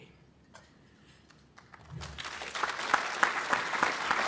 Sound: applause

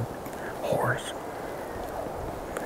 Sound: elk bugling

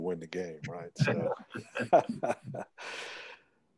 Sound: men laugh

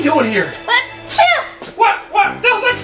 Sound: sneezing

